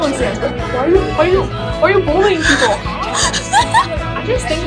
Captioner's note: laughing